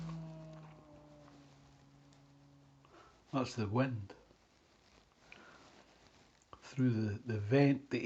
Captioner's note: moaning in background